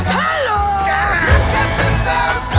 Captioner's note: screaming